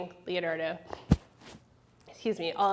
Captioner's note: mic rustling